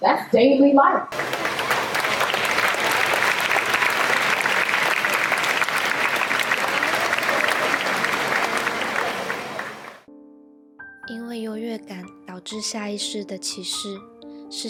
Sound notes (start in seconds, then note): 1.1 applauding